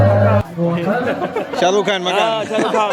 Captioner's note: laugh